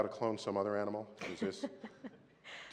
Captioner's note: laughter